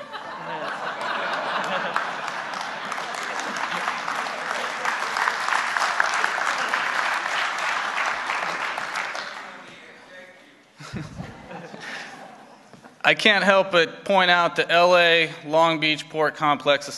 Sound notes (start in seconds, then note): 0.0 laughter; 5.7 applause